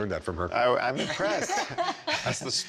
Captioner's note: laughs